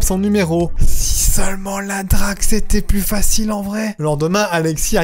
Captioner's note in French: chuchote